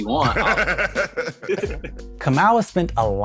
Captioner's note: laughing